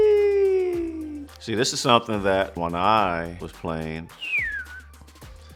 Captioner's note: whistles